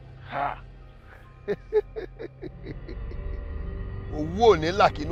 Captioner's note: laughs; incantation